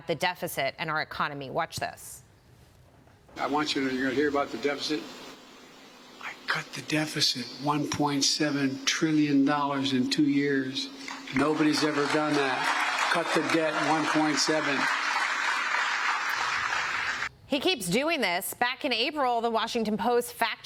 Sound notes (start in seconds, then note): 15.9 cheers and applause